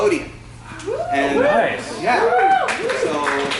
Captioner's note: crowd reacts